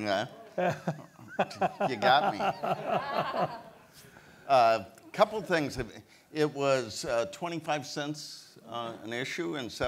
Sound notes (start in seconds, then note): 0.4 laughs; 3.0 audience laughs